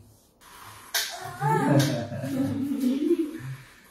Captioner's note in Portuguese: risos